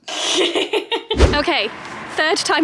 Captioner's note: laughs; video swooshes